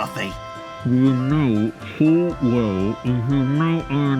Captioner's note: muffled under mask